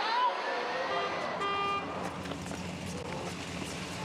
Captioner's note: honking